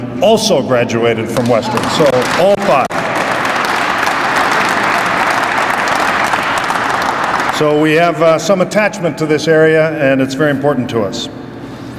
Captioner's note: crowd applauds